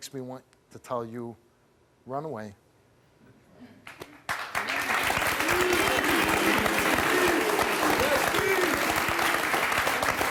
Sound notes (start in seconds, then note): 4.5 cheering